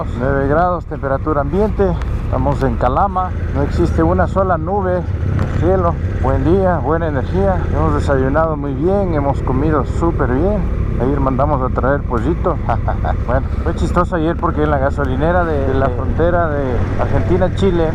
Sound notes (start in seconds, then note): 12.2 laughs